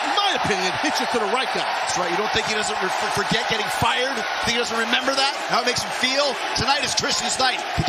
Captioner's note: bell